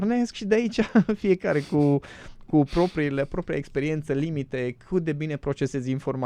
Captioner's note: snoring